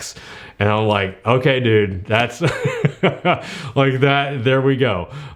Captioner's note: laughs